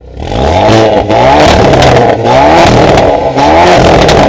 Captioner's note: car engine revving